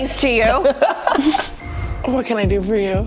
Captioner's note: laughing